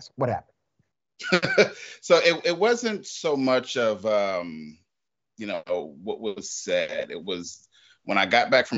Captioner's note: laugh